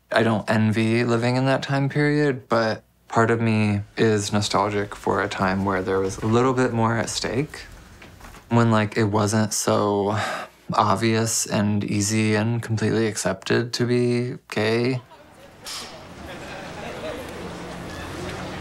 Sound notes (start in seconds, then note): 10.2 sighing; 15.0 crowd chattering